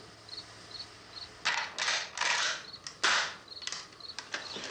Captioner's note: rifle cocks